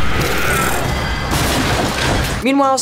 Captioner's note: monstrous screeching; wood breaking, hissing